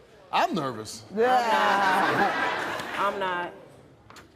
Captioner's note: laughing